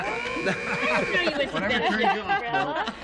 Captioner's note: buzzer